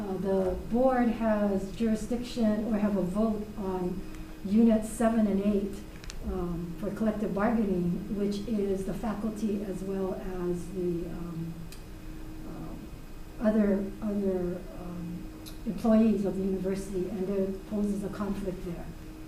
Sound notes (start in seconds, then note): none